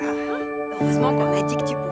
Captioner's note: Stephanie sighs